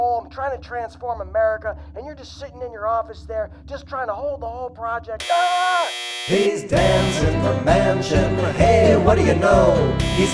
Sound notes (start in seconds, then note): 5.2 buzzing and Biden screaming